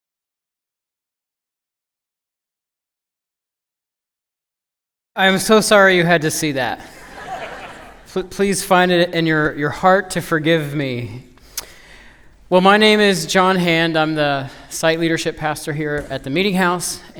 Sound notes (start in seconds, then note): 6.8 laughter